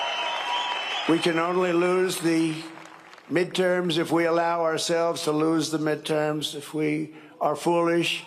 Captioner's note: cheering and applause